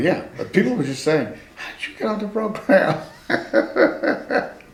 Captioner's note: laughs